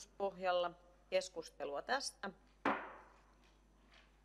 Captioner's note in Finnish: Nuijan kopautus